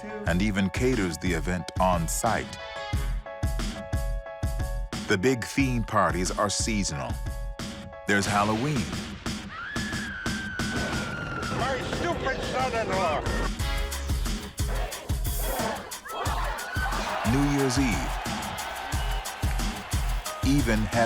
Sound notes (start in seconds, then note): 9.5 scream; 15.4 cheering